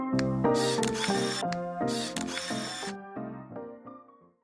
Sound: camera clicking

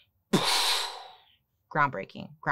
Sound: puffs

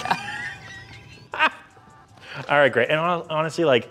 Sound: both laughing

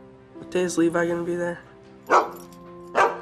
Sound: barking

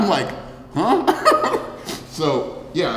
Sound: giggles

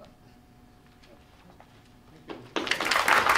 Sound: applause

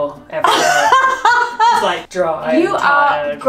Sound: laughing

